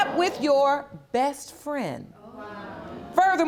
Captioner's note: audience murmurs